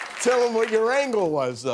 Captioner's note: cheers and applause